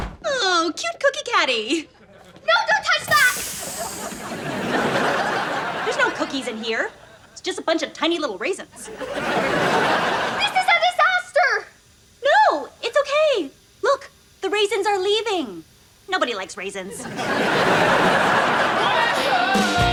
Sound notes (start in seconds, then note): 3.3 air pressure noise; 3.8 laughs; 8.7 laughs; 16.8 laughs